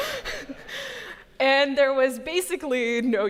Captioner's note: laughter